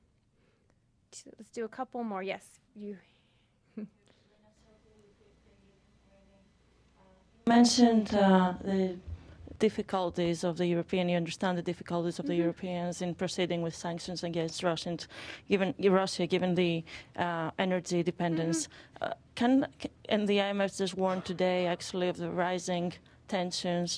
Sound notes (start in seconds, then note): 6.1 off-mike